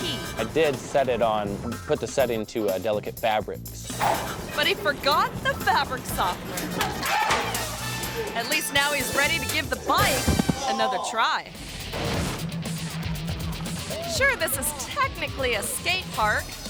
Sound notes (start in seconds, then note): 6.6 dryer clacks; 11.5 pulsating rock music